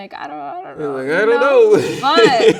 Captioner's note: laughing